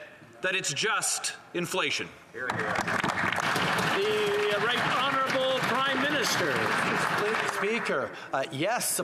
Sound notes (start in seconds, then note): 7.4 applause